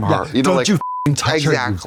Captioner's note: beep